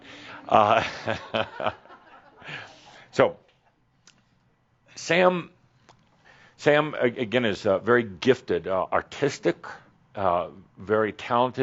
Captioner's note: a few giggles